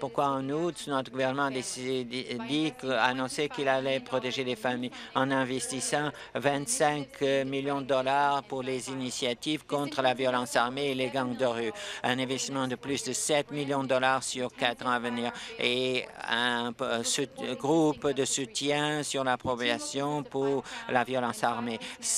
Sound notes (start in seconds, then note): none